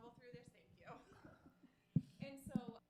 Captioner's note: chuckles